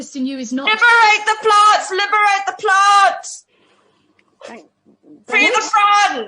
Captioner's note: shouts